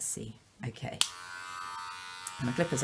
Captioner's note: buzzing